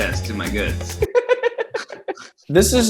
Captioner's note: laughing